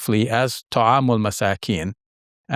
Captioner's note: speaks in foreign language